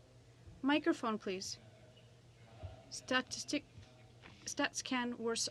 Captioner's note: speaking french